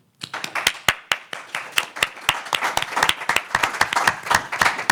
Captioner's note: applause